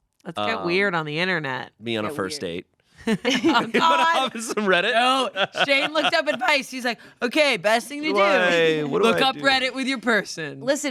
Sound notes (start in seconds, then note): 3.1 everyone laughs